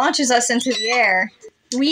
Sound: squeak

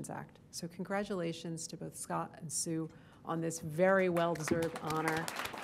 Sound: applause

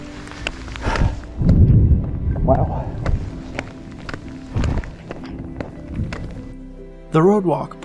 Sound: thunder

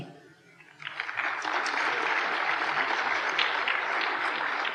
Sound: applause

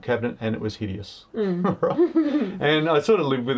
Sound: laughing

